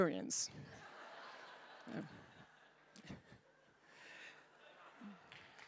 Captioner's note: audience laughing